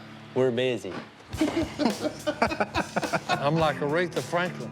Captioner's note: laughter